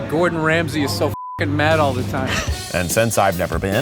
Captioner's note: upbeat music; laughs